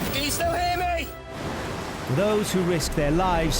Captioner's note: waves crashing